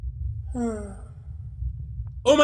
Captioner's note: sigh